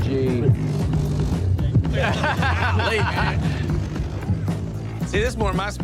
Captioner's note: laughter